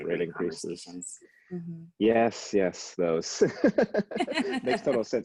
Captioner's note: laughs